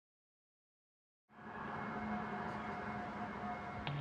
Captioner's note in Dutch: zachte electronische geluiden